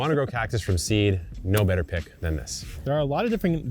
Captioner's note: table thumping